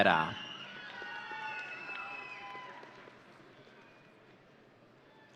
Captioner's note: audience cheering